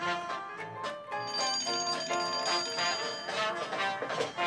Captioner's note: phone ringing